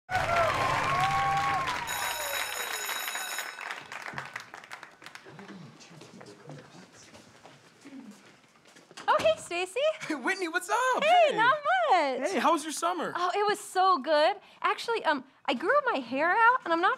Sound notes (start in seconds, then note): 1.8 school bell ring